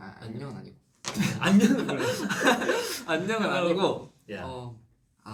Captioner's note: laughs